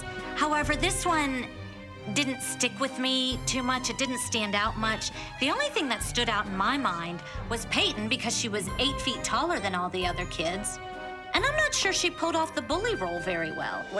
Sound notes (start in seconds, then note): none